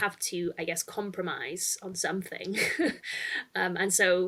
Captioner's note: chuckles